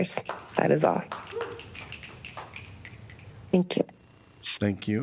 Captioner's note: applause